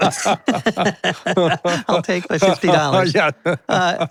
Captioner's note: both laughing